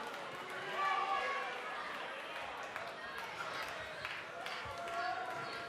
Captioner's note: crowd chatter